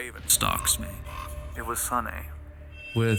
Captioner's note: raven caws